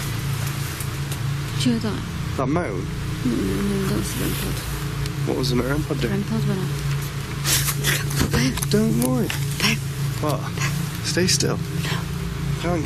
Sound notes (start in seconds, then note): 7.7 gasp